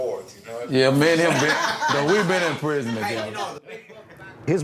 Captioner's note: laughing